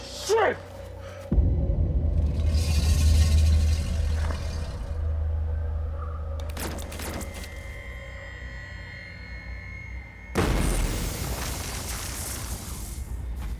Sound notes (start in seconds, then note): 6.5 lasers humming; 10.4 explosion roaring